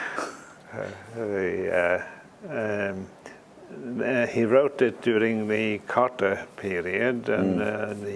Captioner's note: laugh